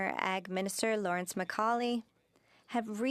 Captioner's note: speaking French